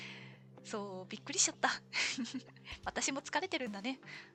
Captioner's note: laughs